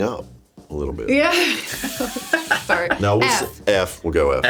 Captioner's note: laughs